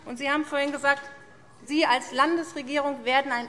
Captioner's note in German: none